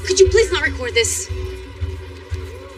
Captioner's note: chatter